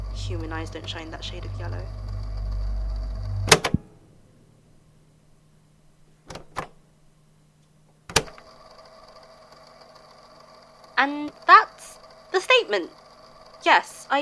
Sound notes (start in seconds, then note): 3.5 click; 6.0 click